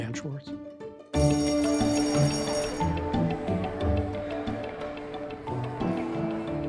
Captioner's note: bright music; bell ringing